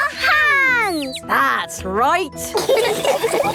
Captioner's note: all laughing